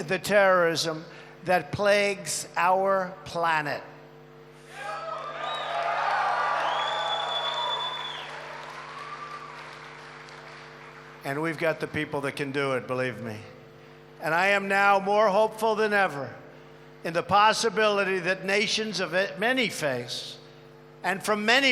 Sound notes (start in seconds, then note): 5.4 applause